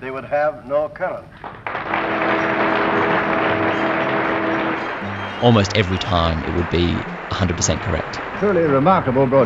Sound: audience applauds

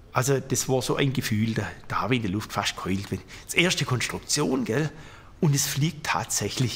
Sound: none

